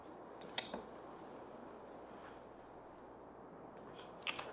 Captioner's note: kisses smacking